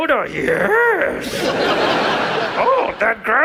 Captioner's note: audience laughs